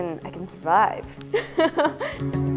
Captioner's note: chuckle